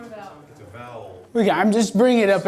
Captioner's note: voiceover